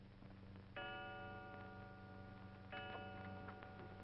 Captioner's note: clock chimes